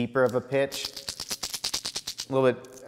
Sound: bait rattling

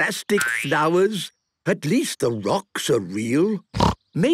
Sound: snorting

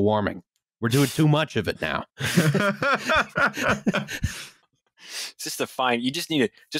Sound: laughter

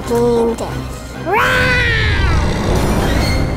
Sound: growls; dramatic music

